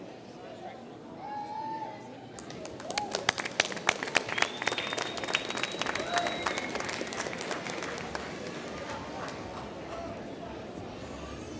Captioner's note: applause